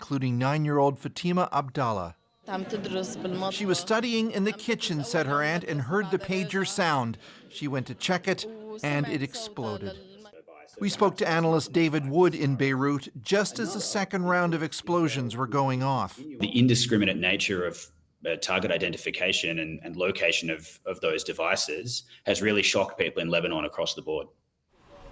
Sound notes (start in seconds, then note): 7.5 speaking alternate language